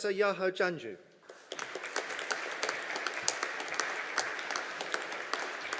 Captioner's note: audience applauding